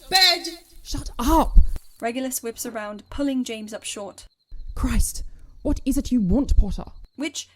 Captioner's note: footsteps stop